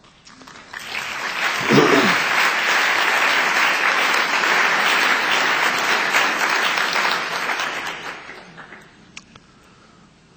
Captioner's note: applause